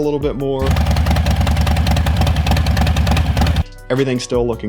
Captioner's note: bike engine roaring